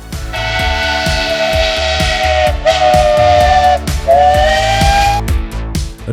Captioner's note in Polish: syrena pociągu